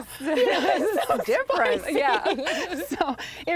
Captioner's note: laughing